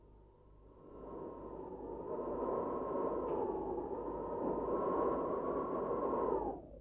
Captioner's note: wind howls